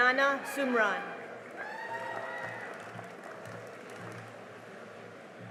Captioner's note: cheering and applause